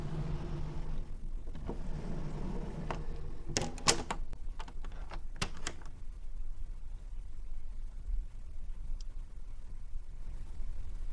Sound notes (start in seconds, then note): 3.5 door closed slowly